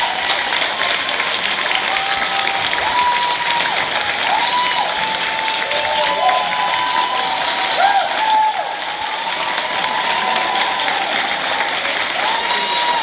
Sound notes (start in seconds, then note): 6.8 cheering continues